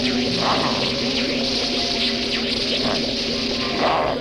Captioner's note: growling